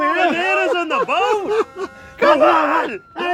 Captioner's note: laughs